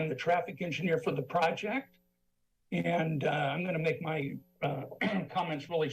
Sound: clears throat

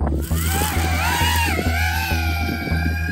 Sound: drone whirring

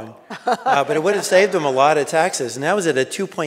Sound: audience laughing

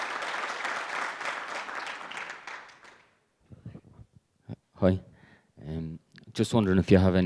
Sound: applause

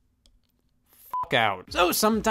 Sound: beep

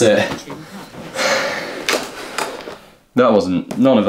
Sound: exhausted breathing

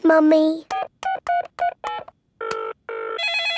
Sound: beeping; phone ringing

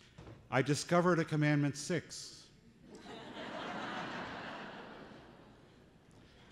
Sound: laughter

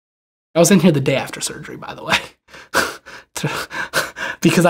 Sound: laughs

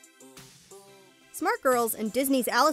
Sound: voiceover

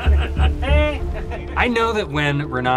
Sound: men laughing

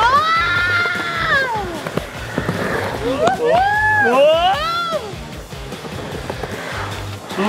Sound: whooping; upbeat music

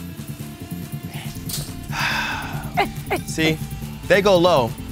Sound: laugh

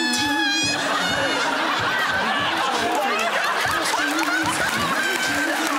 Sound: laughter

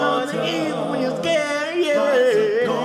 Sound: vocalization

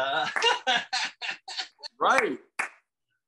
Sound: laughs

